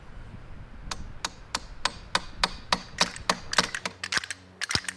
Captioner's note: hammer tapping; clappers reverberating